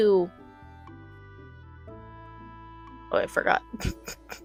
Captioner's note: laughs